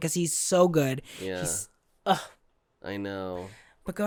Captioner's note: sigh